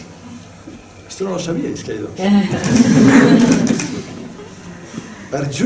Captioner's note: laughs